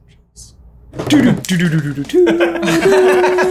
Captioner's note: vocal drum imitation; laughter